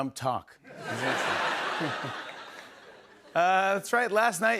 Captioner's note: laughter